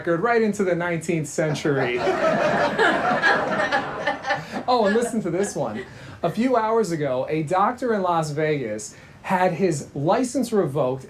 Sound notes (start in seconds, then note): 1.5 Gina laughing; 1.5 audience laughing